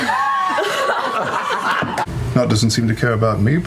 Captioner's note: everyone dies laughing